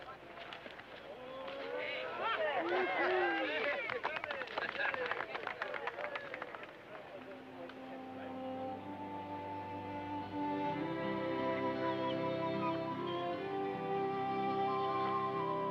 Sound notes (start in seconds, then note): 2.2 crowd cheering and clapping; 7.2 gentle music